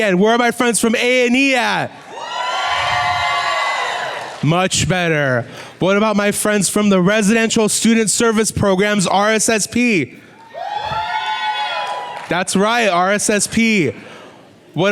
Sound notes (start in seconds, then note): 2.0 louder cheering; 10.4 whooping and clapping